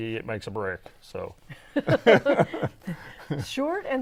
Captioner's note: laughing